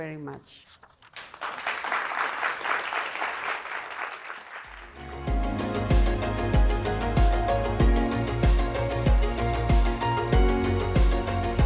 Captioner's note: applause